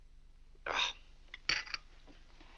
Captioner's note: Mr. Day grumbles